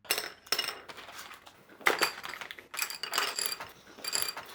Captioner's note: pencils clanking